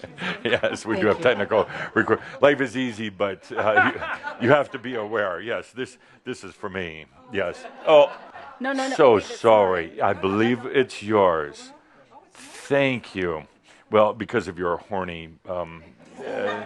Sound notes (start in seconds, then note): 1.4 chuckles; 3.5 laughter; 7.0 some laughter